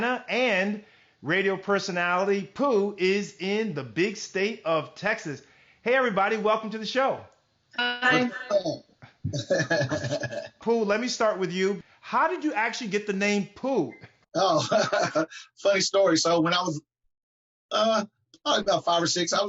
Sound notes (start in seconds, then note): 14.4 laughs